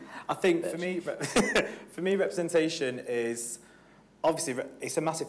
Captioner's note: laughs